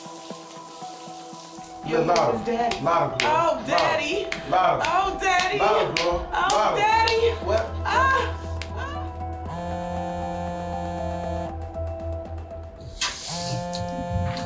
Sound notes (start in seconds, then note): 0.1 water pattering; 0.2 mysterious music; 9.4 phone buzzing